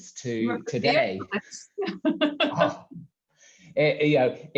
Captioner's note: laughs